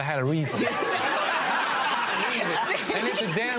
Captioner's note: laughter